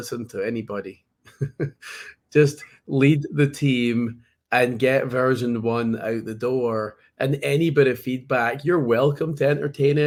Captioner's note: laughs